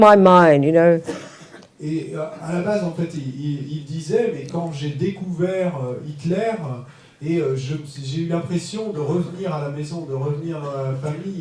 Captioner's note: French